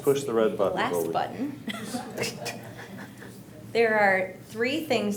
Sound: quietly laughing

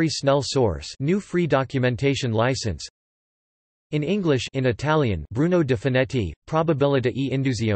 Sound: in Italian

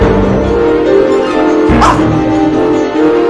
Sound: bark!

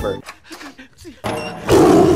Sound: tiger screams

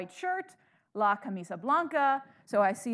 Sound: speaking in foreign language

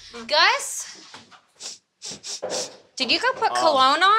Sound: sniffing

